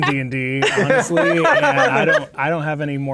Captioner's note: players laughing